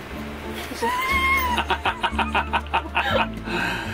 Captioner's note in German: lacht